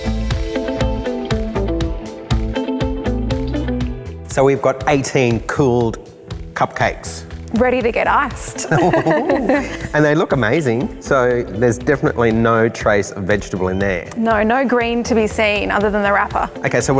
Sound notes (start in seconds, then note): 0.3 upbeat music; 8.6 laughter